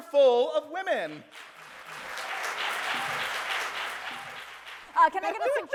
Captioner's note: audience cheers and applauds